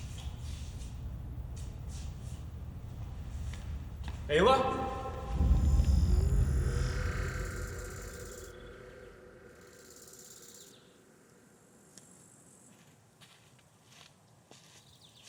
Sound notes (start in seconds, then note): 9.4 birds and cicadas chirp